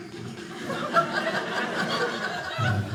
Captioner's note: audience laughing